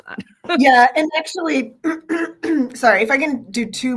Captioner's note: clears throat